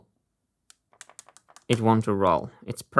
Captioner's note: marble rolling